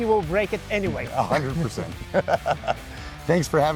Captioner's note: laughs